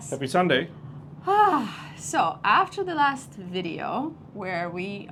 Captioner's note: sighs